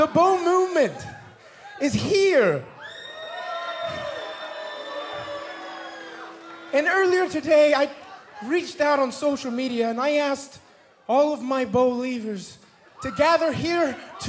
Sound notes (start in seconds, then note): 5.2 cheers and boos